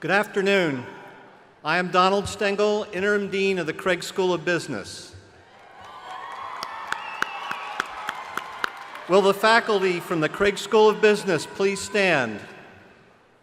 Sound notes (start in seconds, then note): 5.6 crowd applauding